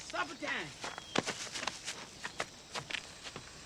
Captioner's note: birds chirping